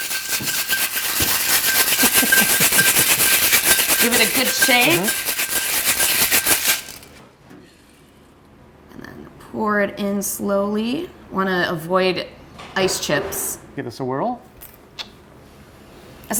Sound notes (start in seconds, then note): 0.0 shaking mixture